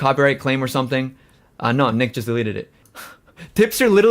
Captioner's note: laughs